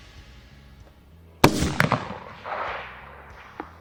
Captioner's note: gunshot